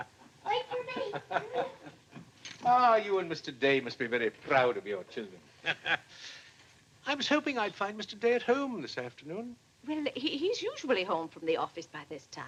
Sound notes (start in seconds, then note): 5.6 chuckles